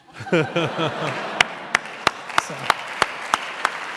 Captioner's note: applause